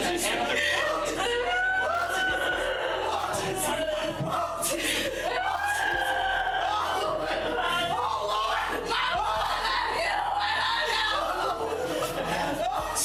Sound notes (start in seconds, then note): 0.2 woman crying uncontrollably; 6.4 crying